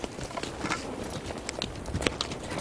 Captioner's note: footsteps